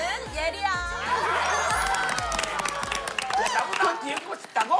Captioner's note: laughing